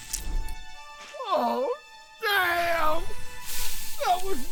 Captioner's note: blood squirting; sizzling flame extinguished; blood squirts and sizzles